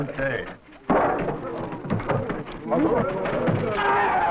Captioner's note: group laughing; servants chattering; servants screaming; servants chattering